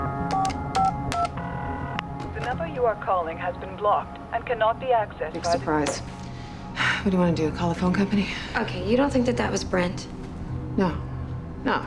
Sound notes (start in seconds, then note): 0.0 line ringing; 0.0 beeping; 7.2 sighs